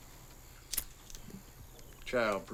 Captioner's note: lighter clicks